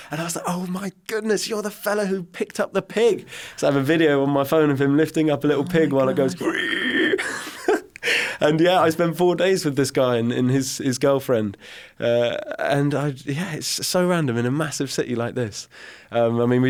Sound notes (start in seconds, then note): 5.5 chuckles; 5.6 imitating grunting